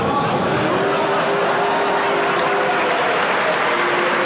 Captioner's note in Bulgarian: освиркване в залата